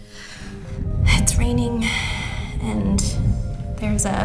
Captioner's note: exhales